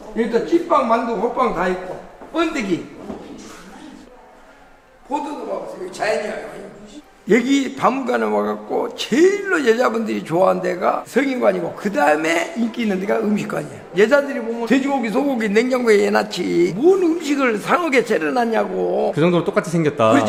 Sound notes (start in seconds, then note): none